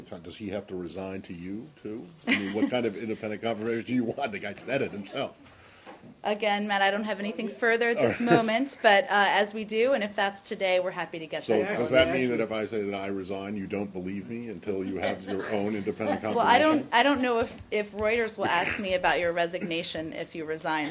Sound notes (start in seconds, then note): 2.2 laughter; 16.2 laughter